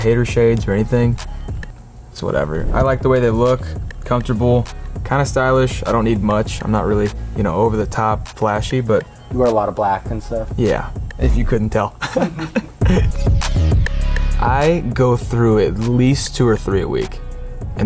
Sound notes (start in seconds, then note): 12.0 laughing; 12.3 upbeat music